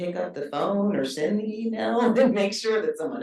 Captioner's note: chuckles